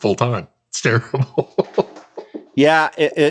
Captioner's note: laughs